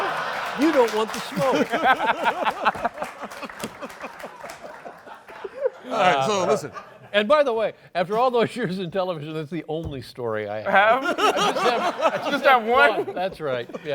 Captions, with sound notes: There you go. - You don't want the smoke. [LAUGHS] So listen-- And by the way, after all those years in television, that's the only story I have. [LAUGHS] - It's just that one? - That's right.